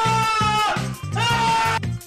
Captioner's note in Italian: Earrape Intensifies